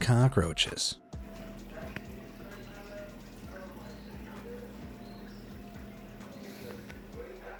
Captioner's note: water running